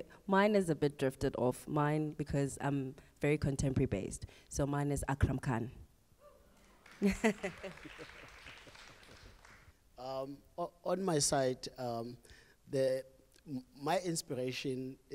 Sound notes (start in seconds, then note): 6.8 cheering and applause from the audience; 7.0 laugh